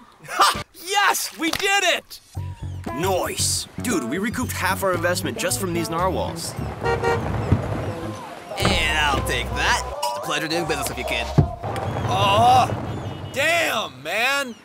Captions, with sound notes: - Yes, we did it! - Noice. - Dude, we recouped half our investment just from these narwhals. (horn honking) And I'll take that. Pleasure doing business if you can. - Oh, damn, man!